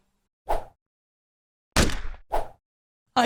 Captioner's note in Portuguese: Barulho de Tiro